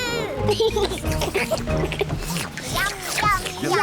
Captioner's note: all slurp